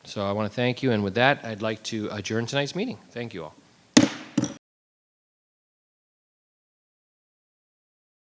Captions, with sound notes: So I wanna thank you. And with that, I'd like to adjourn tonight's meeting. Thank you all. (gavel banging)